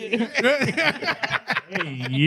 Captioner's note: laughing